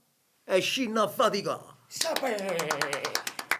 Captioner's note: applause